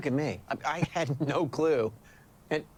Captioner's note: chuckling